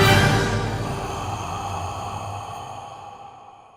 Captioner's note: creature heavy breathing